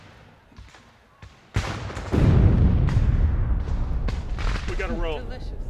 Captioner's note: bomb booming